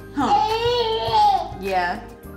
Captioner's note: baby gurgles